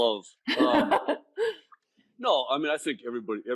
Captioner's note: laughing